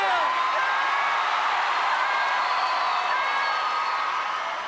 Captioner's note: crowd cheering